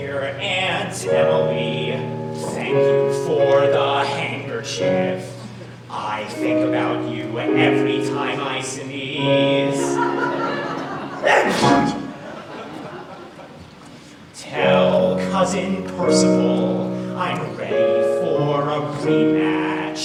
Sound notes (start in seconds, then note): 9.7 audience laughs; 11.2 Henry sneezes